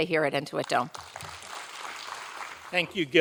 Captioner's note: audience applauding